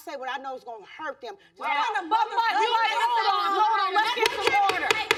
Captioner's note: gavel pounding